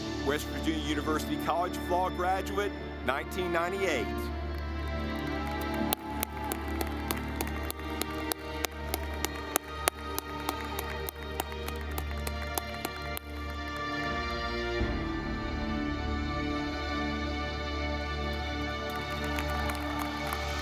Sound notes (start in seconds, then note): 4.1 ceremonious music; 4.4 audience clapping